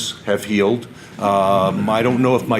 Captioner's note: audience laughter